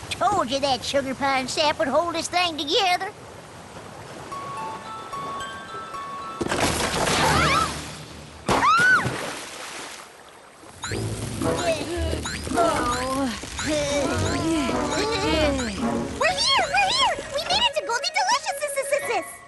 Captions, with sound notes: Told ya that sugar pine sap would hold this thing together. (snap) (splash) (groans) We're here! We're here! We made it to Goldie Delicious'!